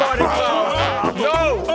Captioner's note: farting intensifies